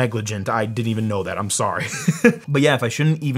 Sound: laughs

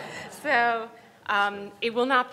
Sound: everyone laughs

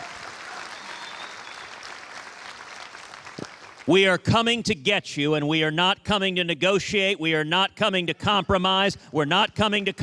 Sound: cheers and applause

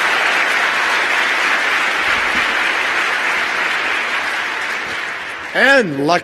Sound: applause

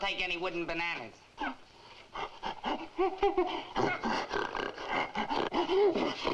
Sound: gorilla chittering frantically

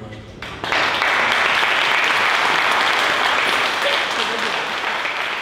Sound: audience applauding

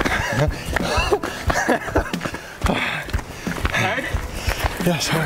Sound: laughter

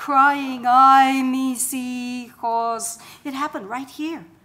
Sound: foreign language

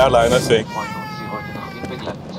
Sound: child crying

